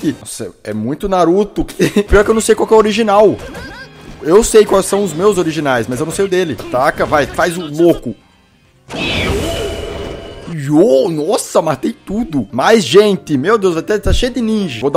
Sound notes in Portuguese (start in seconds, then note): 1.6 risos; 8.6 som do jogo